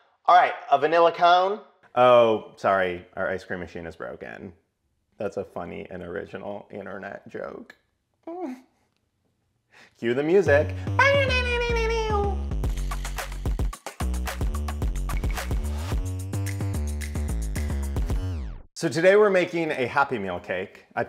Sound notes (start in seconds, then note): 11.1 imitates music; 12.3 upbeat music